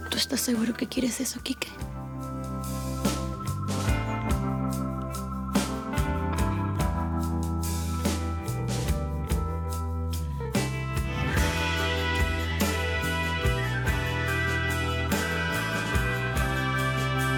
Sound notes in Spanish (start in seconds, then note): none